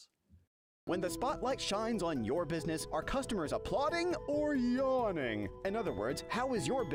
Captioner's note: voiceover